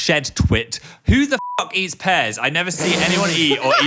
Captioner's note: beeps